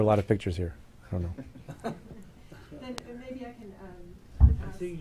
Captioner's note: chuckling